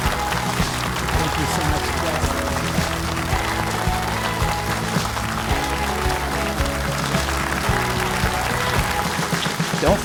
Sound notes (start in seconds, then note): 0.1 audience applauding; 0.1 upbeat music; 4.4 audience applauding; 4.4 upbeat music